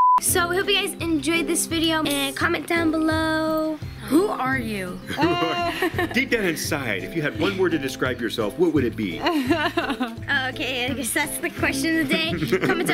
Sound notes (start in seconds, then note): 9.2 laughs